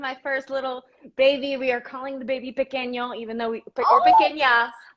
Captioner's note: spanish